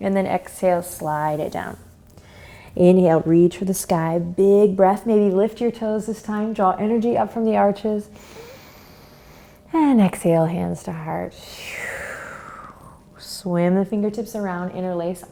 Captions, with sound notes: and then exhale, slide it down. Inhale, reach for the sky, big breath, maybe lift your toes this time, draw energy up from the arches. (inhales) And exhale, hands to heart. (exhales) Swim the fingertips around, interlace,